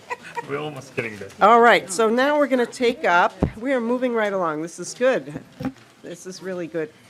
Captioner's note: laughing